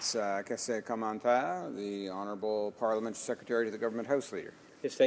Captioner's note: some applause